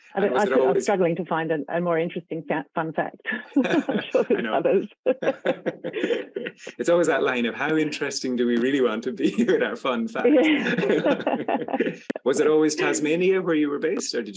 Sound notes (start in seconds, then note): 3.2 chuckling; 10.6 laughing